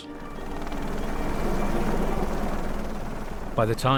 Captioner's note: helicopter whirring